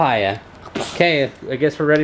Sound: explosion noise with mouth

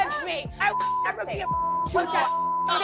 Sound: beep

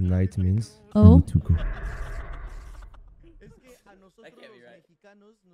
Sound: whooshing sound

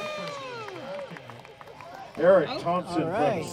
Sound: people applauding; people cheering

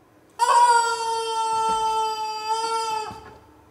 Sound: squishy honks

